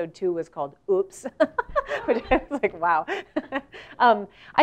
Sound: laugh

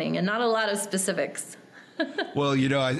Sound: laughing

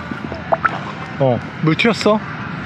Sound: splash water

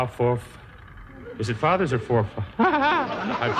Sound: laughs

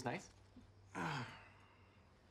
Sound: Alex groans

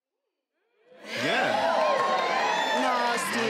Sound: cheering

